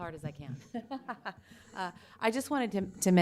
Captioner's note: laughs